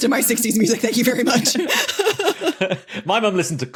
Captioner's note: laugh